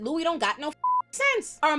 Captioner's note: beep